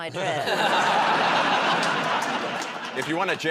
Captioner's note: laughter